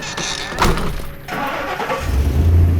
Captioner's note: screen door slams; truck cranks and starts